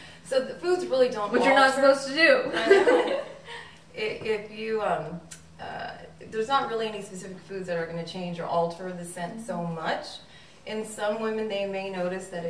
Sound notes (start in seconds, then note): 2.4 girls laughing